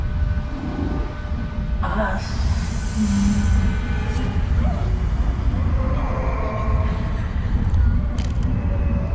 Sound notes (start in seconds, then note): 0.2 eerie music rises; 4.8 voices wailing and moaning